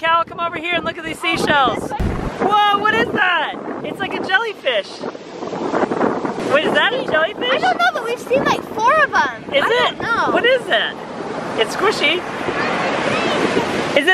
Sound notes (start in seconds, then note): none